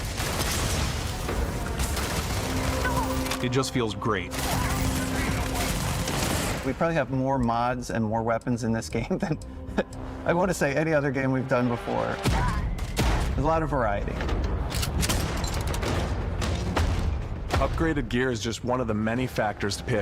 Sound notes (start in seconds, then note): 4.3 enemies yelling